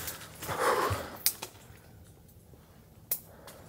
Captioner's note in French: souffle